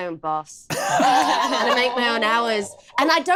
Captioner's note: laughs